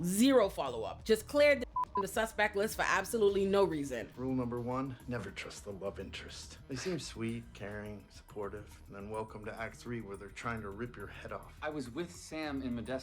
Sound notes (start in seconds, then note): 1.7 beep